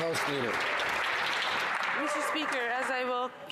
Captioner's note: some Applause